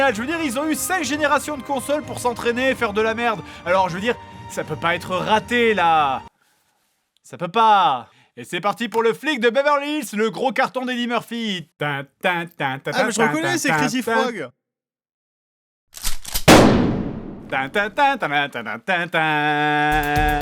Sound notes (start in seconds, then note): 16.4 gunshot